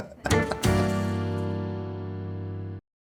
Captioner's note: laughs